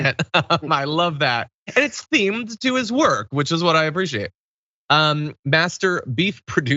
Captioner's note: laugh